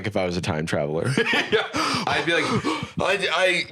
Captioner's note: laughs; panting